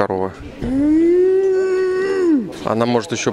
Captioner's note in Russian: мычит